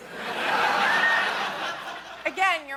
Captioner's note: laughter